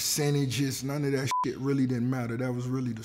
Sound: beep

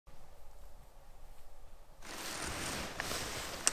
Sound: wind whistling

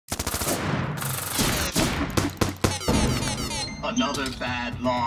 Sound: gun shots blaring

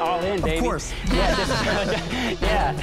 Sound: laughter

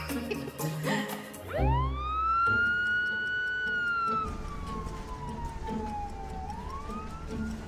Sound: ambulance siren

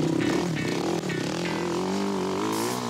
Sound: engine revs

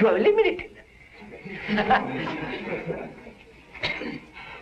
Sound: laughter

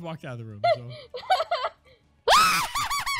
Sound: Goldy laughs; laughs loudly

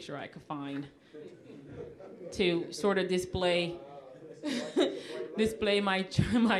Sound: audience laughing

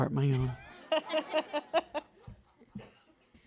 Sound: laughter

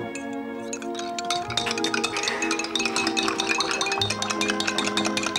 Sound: stirring

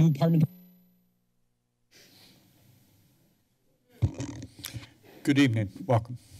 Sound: silence

